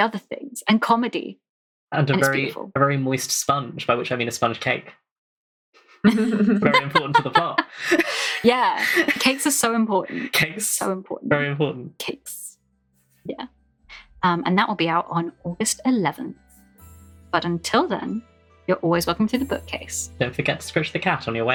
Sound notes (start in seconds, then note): 6.0 laughs